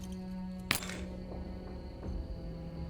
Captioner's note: clanks onto floor